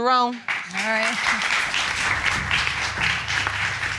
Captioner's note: audience applauds